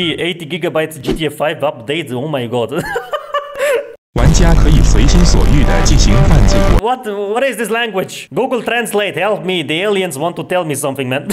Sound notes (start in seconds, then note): 3.2 laughs